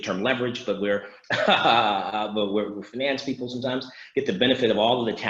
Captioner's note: laughs